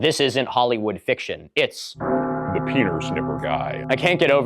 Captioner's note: bell toll; deepened voice